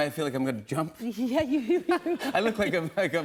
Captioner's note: laughs